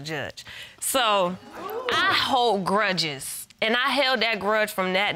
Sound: audience member gasps

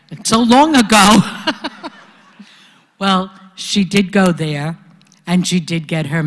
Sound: laugh

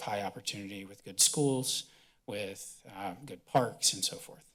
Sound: none

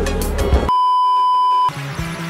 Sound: beeeeeep

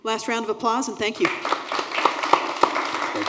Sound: applause

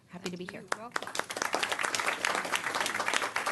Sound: applause

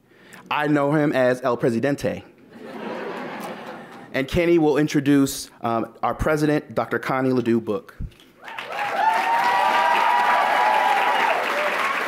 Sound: audience claps and cheers

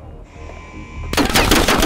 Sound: gun fires

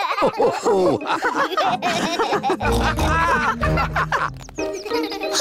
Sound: all laugh

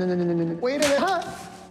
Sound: crack

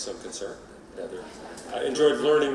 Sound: laughing

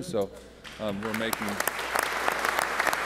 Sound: applause

